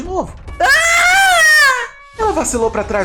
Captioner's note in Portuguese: Grito de dor